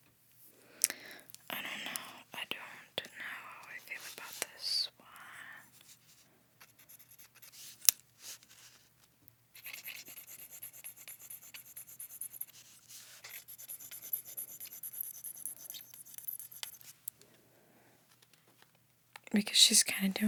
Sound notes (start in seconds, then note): 7.7 scratching